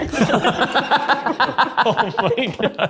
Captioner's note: all laughing; laughs